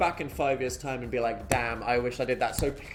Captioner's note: palm thumping